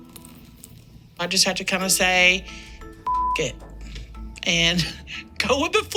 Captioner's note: beep